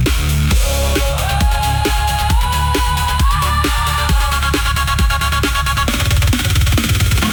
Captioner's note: chanting